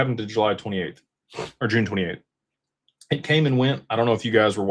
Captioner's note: snorts